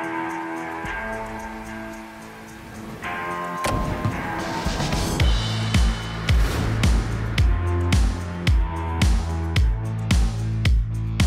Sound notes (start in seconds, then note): 3.6 target booms; 5.1 questing music